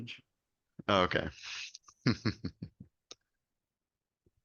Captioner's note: chuckles